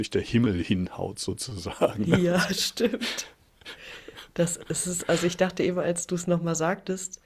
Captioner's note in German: gelächter